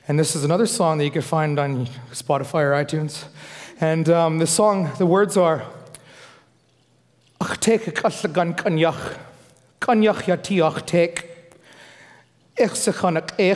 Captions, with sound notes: and this is another song that you can find on Spotify or iTunes. And the song, the words are, (foreign speaking).